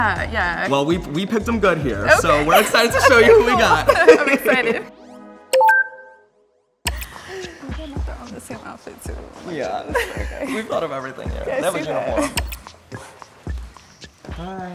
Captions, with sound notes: - Yeah, yeah. - Well, we, we picked them good here. - Okay! - So we're excited to show you who we got. - I'm excited. (beeping) - Oh my God, they're all in the same outfit too. - Yeah, we've thought of everything here. - I see that. - Everything's uniform.